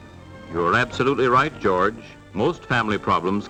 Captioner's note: voiceover